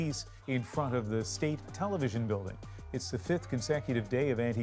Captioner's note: chants